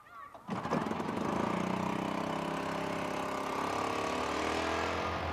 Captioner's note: cart engine humming